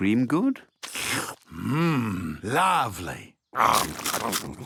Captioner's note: slurps